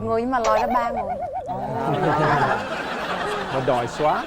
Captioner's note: laughing